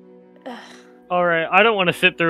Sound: sigh

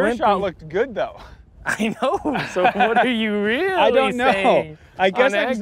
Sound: chuckles

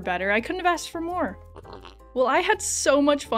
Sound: slurp

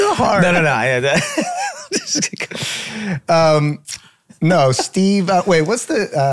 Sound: laughing

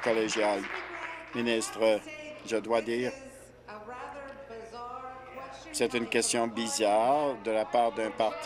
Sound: some Applause

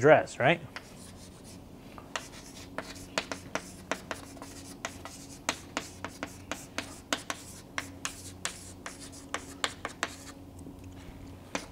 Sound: chalkboard writing

